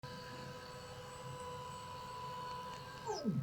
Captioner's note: printer whirring